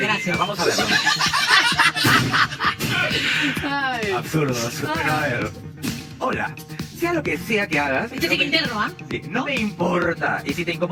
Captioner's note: laughs